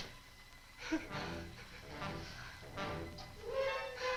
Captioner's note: Marlowe gasps